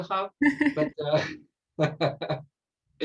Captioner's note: laughs